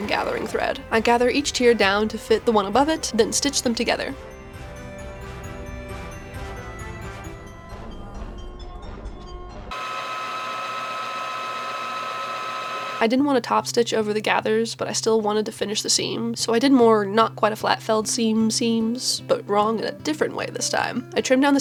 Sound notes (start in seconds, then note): 4.4 bright, upbeat music; 9.7 bobbin winder whirring